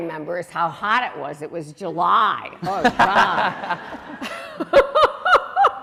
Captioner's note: laughing